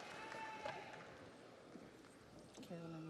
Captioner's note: audience cheers; audience applauds